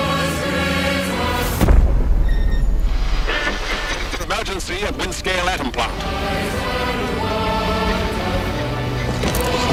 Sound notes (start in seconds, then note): 1.5 explosion; 4.1 radio voice